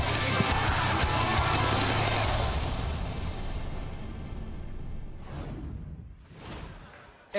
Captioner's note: crowd cheering